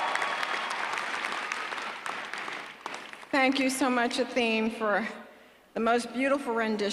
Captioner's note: applause